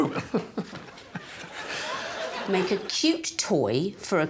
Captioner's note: audience laughing; Alan woofing